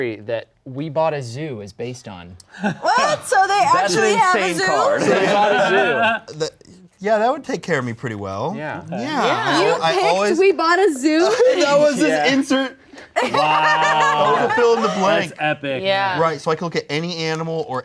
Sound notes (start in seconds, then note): 5.9 laughing